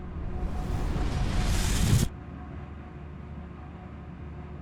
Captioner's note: explosion whooshes; soft music